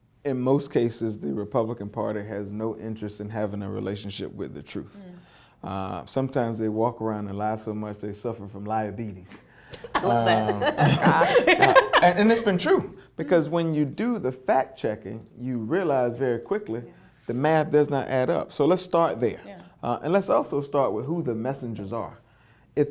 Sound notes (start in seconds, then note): 9.7 laughs